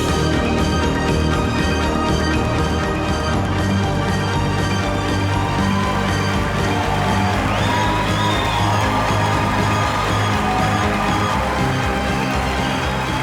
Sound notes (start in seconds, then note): 6.3 cheers, applause